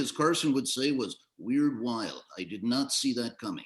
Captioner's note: Johnny Carson Voice